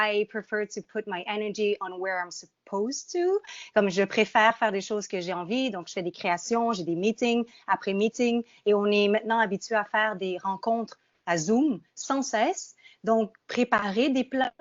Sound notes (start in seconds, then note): 3.3 speaking in French